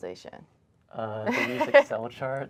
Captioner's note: laughs